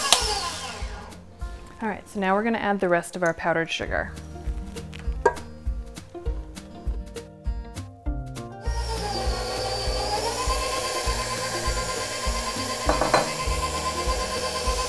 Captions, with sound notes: All right, so now we're gonna add the rest of our powdered sugar. (happy music) (whirring)